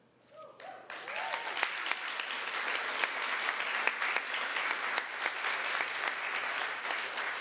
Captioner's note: applause